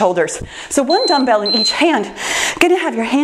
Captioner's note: timer beeps